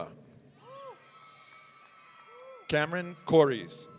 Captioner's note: audience cheering